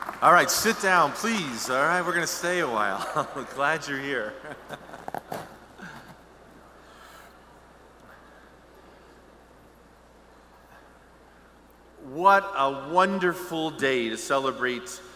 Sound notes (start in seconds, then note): 4.1 pause; 4.2 laughs